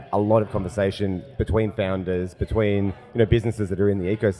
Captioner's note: none